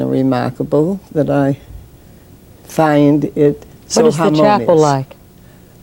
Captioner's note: laughs